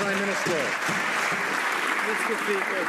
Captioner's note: some Applause